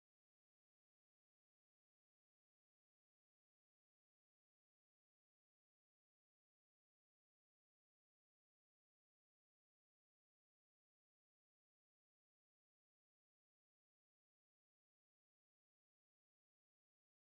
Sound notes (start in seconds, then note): none